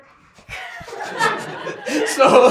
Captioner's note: laughter